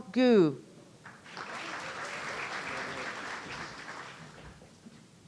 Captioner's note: audience applauding